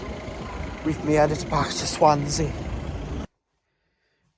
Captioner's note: strange Accent